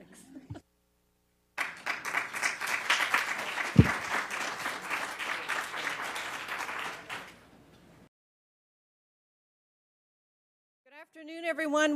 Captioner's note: applause